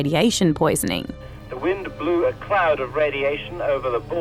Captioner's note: radio Announcer